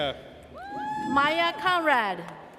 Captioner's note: audience cheers